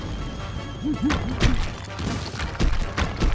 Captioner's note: crumbling